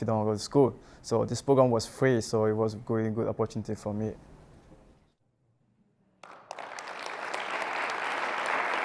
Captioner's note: applause